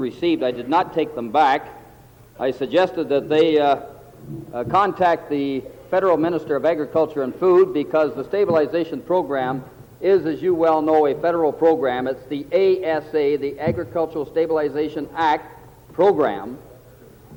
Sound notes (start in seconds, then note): 8.0 table Pounding